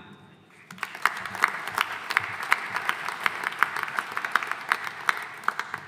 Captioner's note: audience applauding